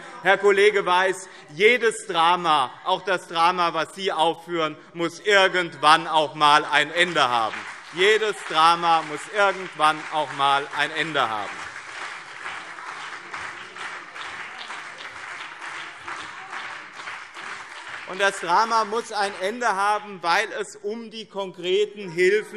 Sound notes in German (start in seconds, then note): 7.7 Beifall BÜNDNIS 90/DIE GRÜNEN und CDU - Zurufe SPD